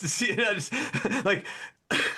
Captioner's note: laughs